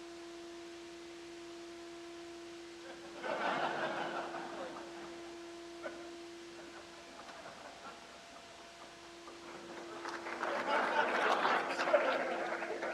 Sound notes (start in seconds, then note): 2.8 crowd laughs